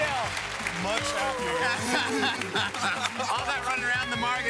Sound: laughing

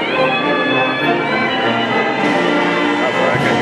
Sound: triumphant music continues; people cheering

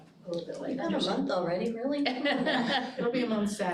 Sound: laughing

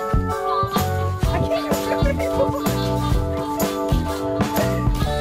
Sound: laughs

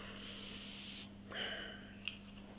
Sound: sighs

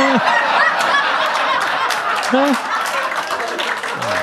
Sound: audience applauding

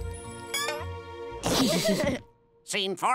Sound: chuckling

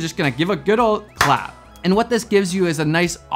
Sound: hands clapping

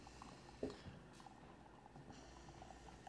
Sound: espresso Brewing

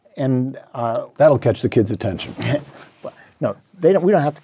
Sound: laugh

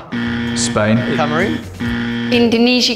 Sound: incorrect buzzer

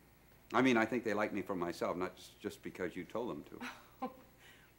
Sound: Gerta laughs

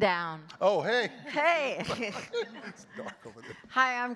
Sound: chuckles

